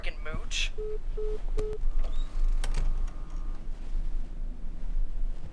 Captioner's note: dial tone beeps